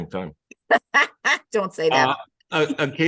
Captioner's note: laughs